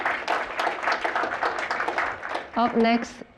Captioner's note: applause